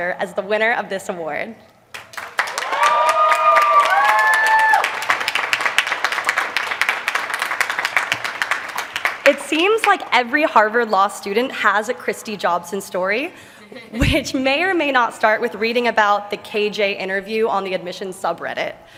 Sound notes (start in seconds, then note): 1.9 applause; 13.7 laughter